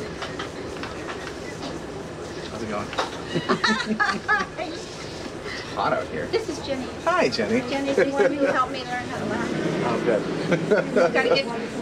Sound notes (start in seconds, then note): 3.2 both chuckling; 10.4 chuckling